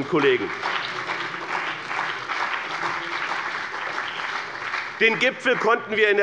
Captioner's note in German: Beifall bei BÜNDNIS 90/DIE GRÜNEN und der CDU